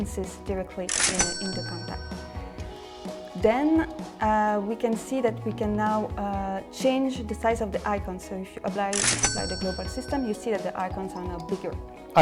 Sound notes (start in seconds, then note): 0.9 cash register cha-ching; 9.0 cash register cha-ching